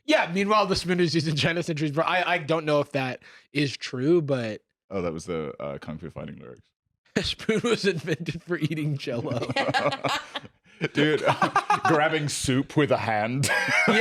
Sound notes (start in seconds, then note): 7.2 laughing; 9.6 laugh